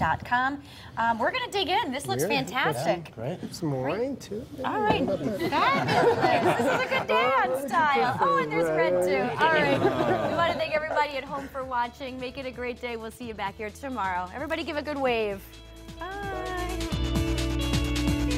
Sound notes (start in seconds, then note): 9.4 laughter